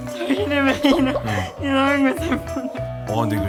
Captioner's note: crying but laughing